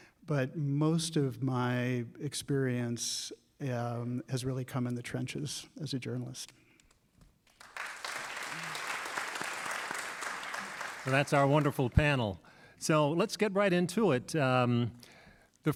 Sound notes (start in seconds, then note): 7.4 applause